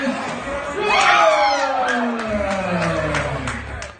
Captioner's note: applause